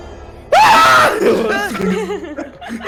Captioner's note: shouts